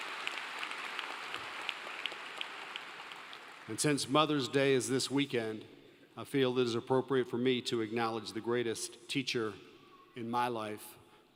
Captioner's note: applause